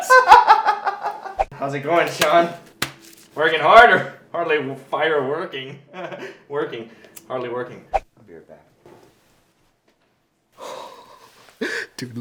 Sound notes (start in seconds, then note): 0.0 laughter; 6.0 laughs nervously; 10.7 giggles quietly